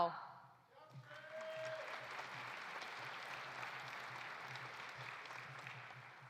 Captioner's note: audience cheering; audience applauding